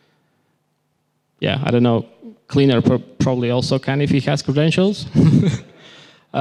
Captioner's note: laughter